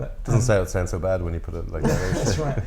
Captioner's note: laughter